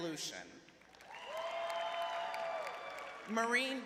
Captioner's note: clapping; cheering